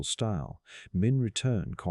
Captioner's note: Greek